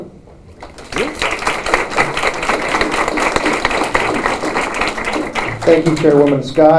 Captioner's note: applause